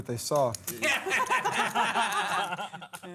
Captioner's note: laughter